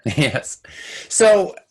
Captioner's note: laughing